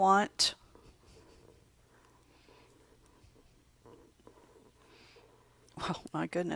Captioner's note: long pause